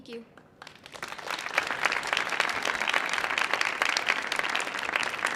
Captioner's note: audience applauding